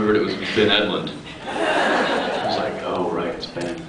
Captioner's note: laughs